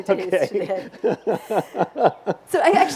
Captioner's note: laughs